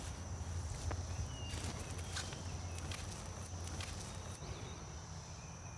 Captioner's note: footsteps pattering